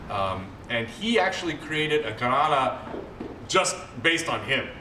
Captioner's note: non-english